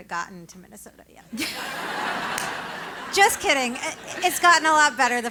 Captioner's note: laugh